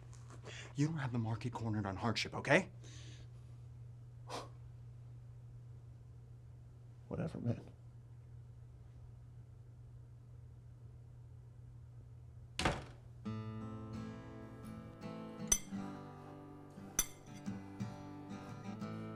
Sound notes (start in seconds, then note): 12.6 door bangs; 13.2 mellow rock music; 15.3 utensils clanging